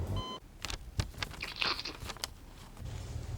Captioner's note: slurping